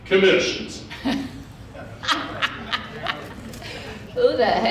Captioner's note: laughing